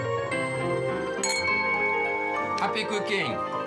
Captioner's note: glasses clinking